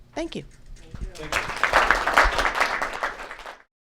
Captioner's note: applause